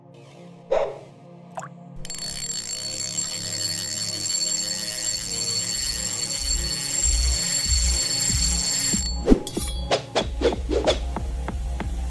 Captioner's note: plop; fishing rod reeling